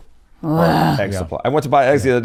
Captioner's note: groans